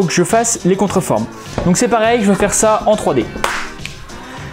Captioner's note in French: CLAP dans les mains